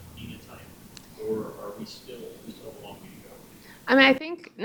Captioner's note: speaks faintly